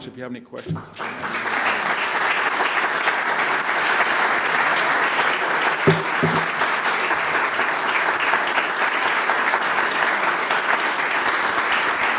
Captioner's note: applause